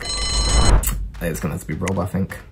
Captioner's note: bell rings